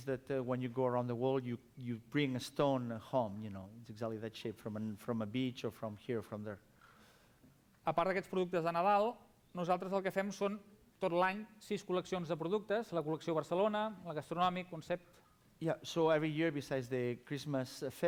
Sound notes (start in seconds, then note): 11.0 non-english speech